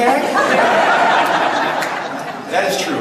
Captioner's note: audience laughs